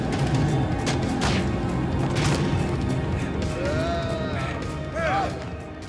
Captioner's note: dramatic music; thuds